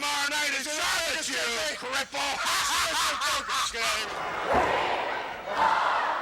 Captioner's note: laughs